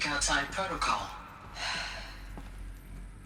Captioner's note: sigh